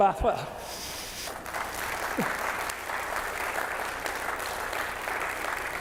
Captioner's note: audience applauds